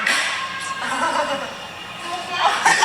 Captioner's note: woman laughs